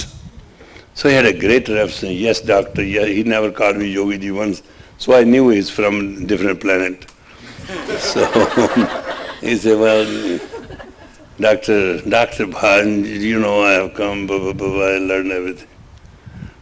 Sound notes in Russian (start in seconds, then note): 7.5 смех